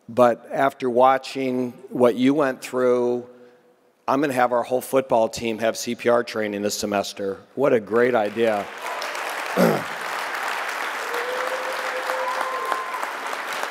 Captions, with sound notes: But after watching what you went through, I'm gonna have our whole football team have CPR training this semester. What a great idea. (audience clapping)